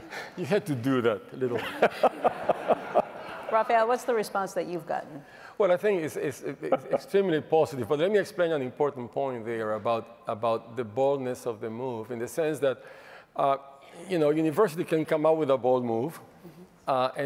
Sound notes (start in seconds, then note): 1.6 laughs